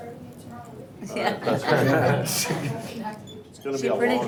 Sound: laughs

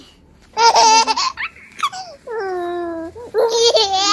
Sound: baby laugh

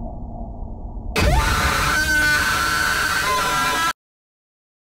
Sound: woman screams

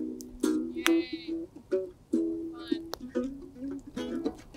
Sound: Tally says sarcastically

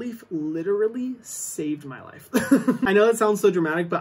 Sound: laughs

